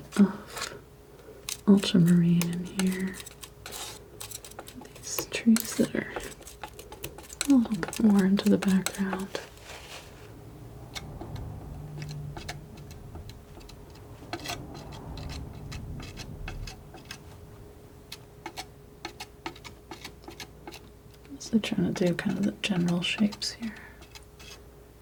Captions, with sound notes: of ultramarine in here. These trees that are a little bit more into the background. [tapping] I'm mostly trying to do kind of the general shapes here.